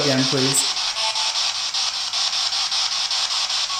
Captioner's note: static